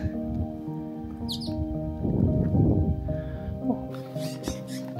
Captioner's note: filled with the sound of birds chirping